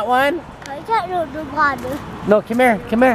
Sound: chatters

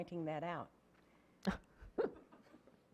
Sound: laughing

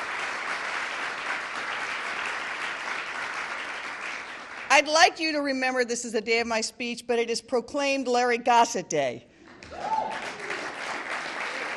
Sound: cheering; applause

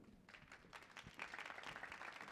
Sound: applause

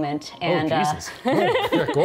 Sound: laughing

